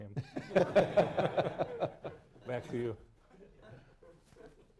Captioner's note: laughter